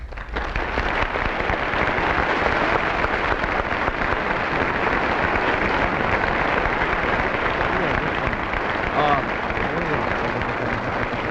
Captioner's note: audience applauds